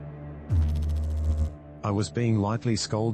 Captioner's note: electrical noise